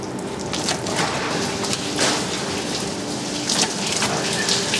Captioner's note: splashing